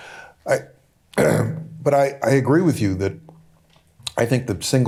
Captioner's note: clears throat